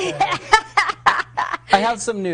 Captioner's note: laughing